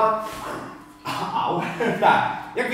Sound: pain sound

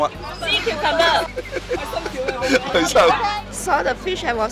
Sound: foreign language

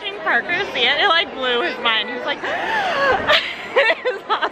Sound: laughs; gasps

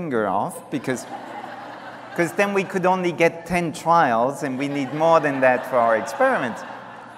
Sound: laughter

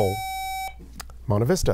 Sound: buzzer

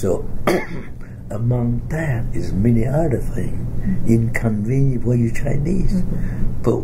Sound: coughs

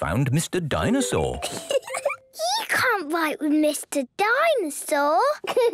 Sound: giggling

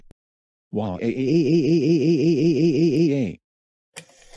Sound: crying

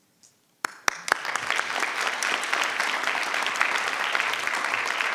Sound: crowd clapping

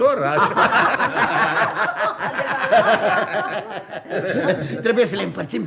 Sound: everyone laughs heartily

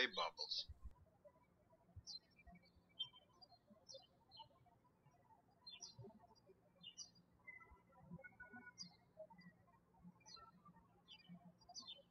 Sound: birds chirping

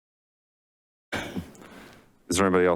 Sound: sighs

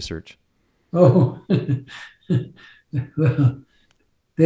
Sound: laughing

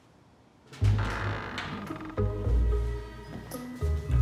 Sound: door creaks

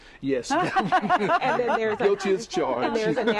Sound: laughter

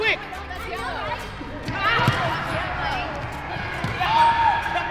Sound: children playing

